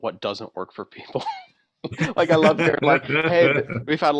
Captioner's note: laughter